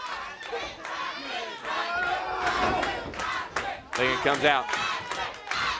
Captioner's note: crowd cheering